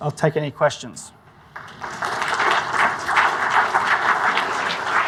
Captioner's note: audience applauds